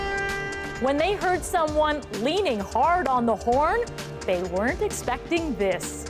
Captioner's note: horns